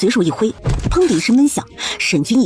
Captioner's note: thud